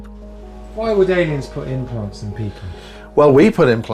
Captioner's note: voiceover